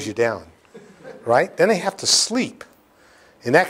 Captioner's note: laughter